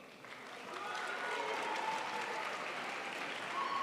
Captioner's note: crowd applauds